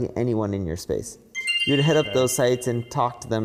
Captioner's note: graphics chiming